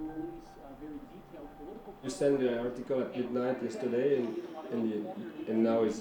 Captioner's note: speaking English